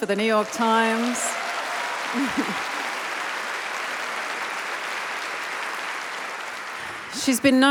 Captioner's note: applause